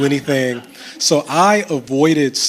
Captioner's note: chuckles